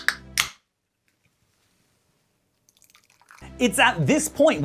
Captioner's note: sounds of pure gamer energy being poured into a fake teacup